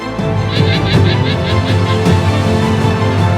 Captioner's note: animal vocalizing